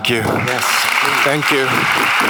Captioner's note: audience applauds